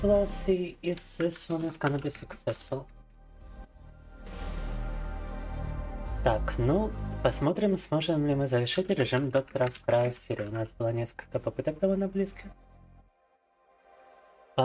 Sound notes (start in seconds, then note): 3.1 dramatic music; 6.3 speaking in foreign language